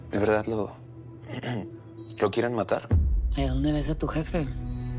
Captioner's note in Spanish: Carraspea